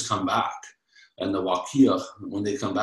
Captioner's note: speaking in foreign language